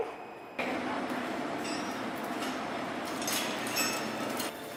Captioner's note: chains rattling